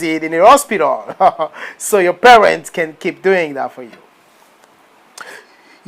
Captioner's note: laughing